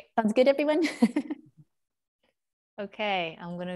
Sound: chuckles

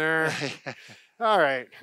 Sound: laughs

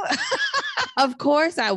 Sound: laughs

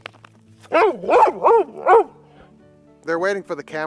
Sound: dog barking

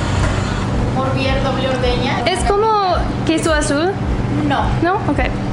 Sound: speaking in Mexican

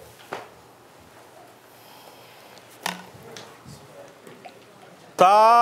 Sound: quiet murmuring

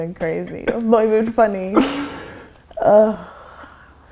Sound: laughs

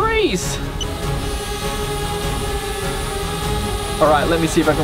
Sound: drone hums

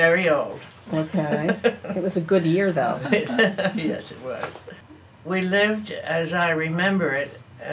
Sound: laughs

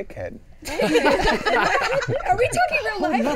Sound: all laughing

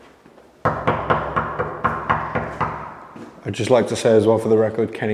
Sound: knocking on door

